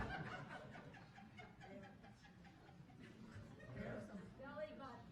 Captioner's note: audience laughing